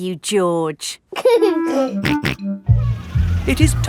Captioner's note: giggling and snorting